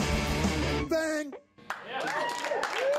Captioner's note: cheering and applause